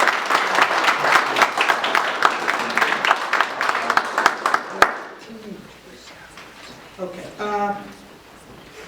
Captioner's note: applause